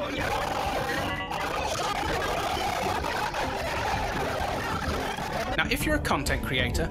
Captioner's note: screams of joy from a thousand people